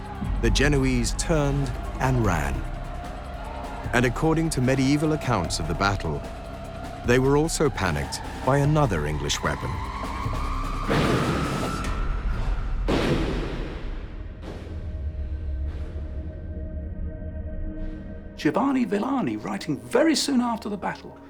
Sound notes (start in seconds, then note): 10.8 explosion